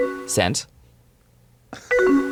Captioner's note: computer chimes